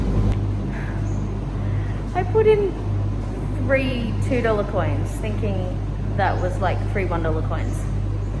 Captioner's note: sighs